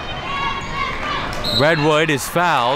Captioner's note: whistle blows